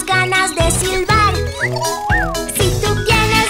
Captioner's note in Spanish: Silbido